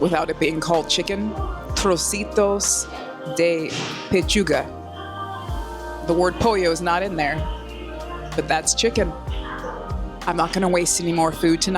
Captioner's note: Spanish